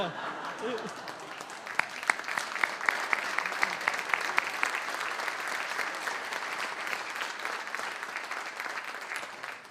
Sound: applause

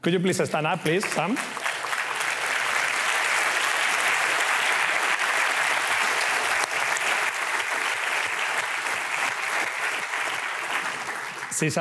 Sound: applause

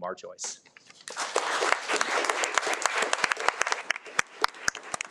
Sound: audience clapping

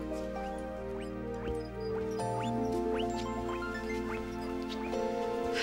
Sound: guinea pig squeaking

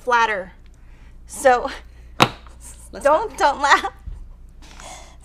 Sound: chuckling

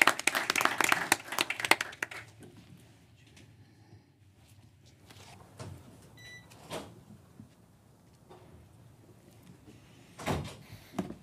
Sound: applause

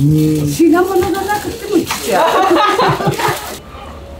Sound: laughs

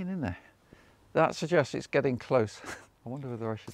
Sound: chuckles

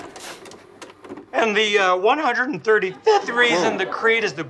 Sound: voice cracking

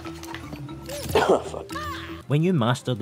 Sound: cough

